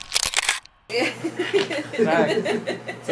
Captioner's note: laugh